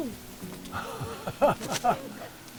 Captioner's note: laughing